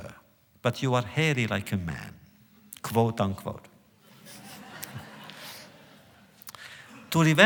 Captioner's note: laughter